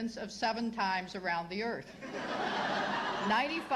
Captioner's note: laughter